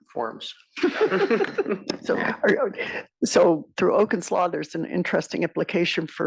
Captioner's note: laugh